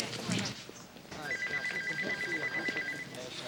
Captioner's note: phone ringing